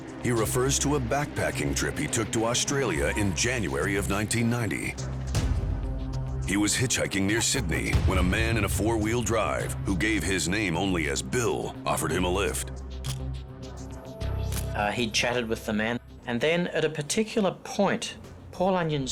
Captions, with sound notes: HE REFERS TO A BACKPACKING TRIP HE TOOK TO AUSTRALIA IN JANUARY OF 1990. HE WAS HITCHHIKING NEAR SYDNEY WHEN A MAN IN A FOUR-WHEEL DRIVE, WHO GAVE HIS NAME ONLY AS 'BILL', OFFERED HIM A LIFT. (camera shutter click) HE CHATTED WITH THE MAN AND THEN AT A PARTICULAR POINT